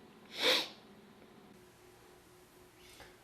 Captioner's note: sniffling